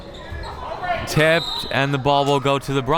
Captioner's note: whistle tweeting